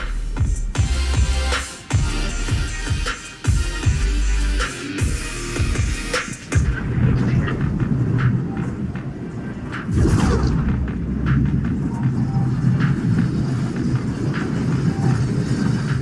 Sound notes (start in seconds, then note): 6.7 whooshing; 9.8 electronic whooshing